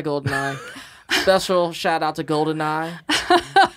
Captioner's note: laughs; they laugh